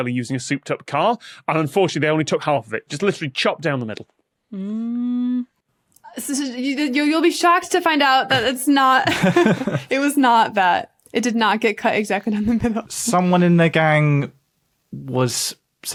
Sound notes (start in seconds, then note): 6.0 stammers; 9.0 laugh